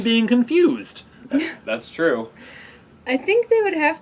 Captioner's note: laugh